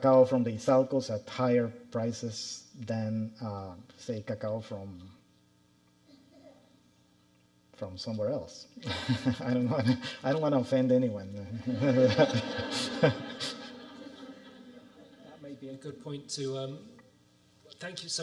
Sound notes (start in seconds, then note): 11.5 audience laughing